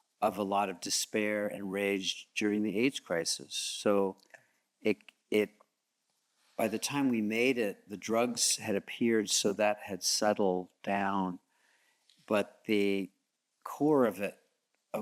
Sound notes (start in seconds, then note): none